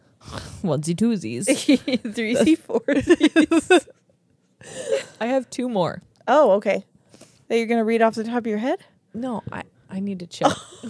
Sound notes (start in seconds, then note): 1.5 laugh